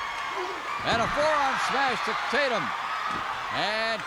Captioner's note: crowd cheers